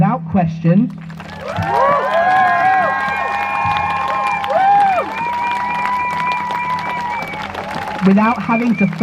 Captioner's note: crowd cheers